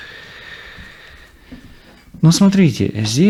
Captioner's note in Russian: вздыхает